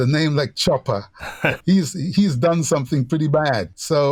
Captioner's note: laughter